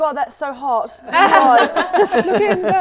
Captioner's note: laughing